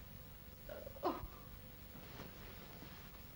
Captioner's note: sobs